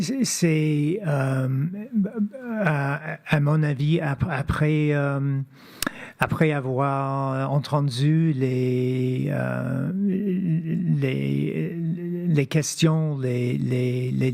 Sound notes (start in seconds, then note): 3.6 speaking French